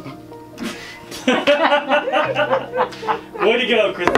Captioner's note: laughter